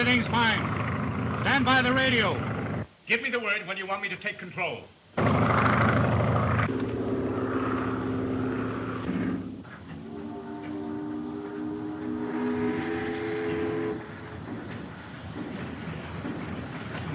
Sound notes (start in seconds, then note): 6.3 airplane engine roaring; 9.8 ship's horn blowing